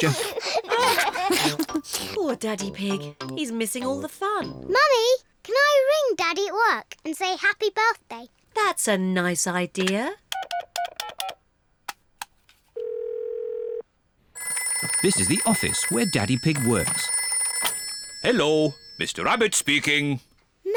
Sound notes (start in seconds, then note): 0.0 laughs; 12.5 phone rings